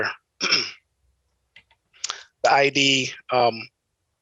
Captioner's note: clears throat